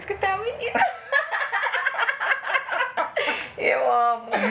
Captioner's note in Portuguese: risadas